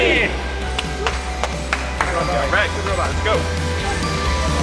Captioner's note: clapping and cheers